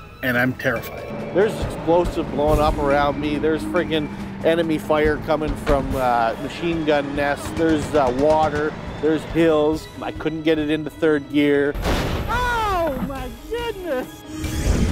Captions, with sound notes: and I'm terrified! There's explosives blowing up around me. There's friggin' enemy fire coming from the machine gun nest. There's water. There's hills. I couldn't get it into third gear! [BANG] Oh, my goodness!